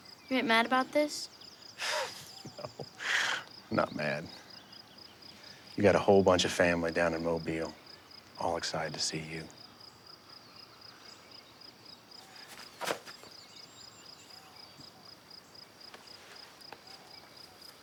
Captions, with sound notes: - You ain't mad about this? - (chuckles) No, I'm not mad. You got a whole bunch of family down in Mobile all excited to see you.